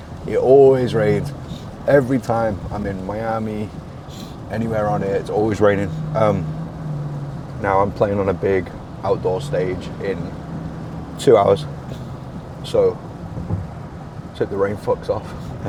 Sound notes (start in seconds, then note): none